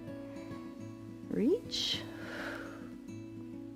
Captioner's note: exhales